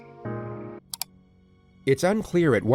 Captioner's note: click